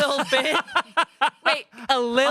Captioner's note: Shayne laughs